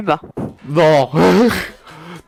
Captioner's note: laugh